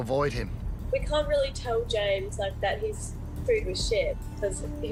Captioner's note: via laptop